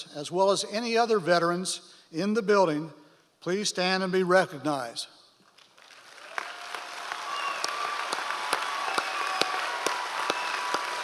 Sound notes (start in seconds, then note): 5.7 audience applause